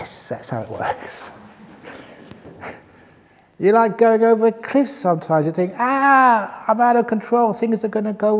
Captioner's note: laughs